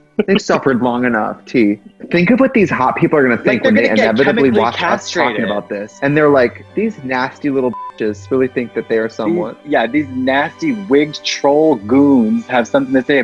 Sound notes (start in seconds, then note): 0.2 laughs; 1.5 laughing drowns out speaker; 7.7 beep